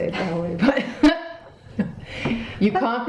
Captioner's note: laughing